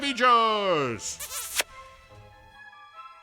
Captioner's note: kiss noise